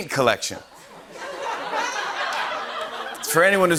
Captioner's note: laughter